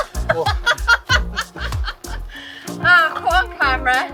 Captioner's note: laughing